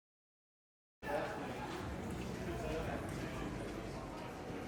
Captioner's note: audience chattering